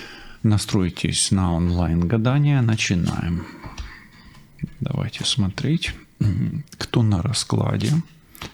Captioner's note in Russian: откашливается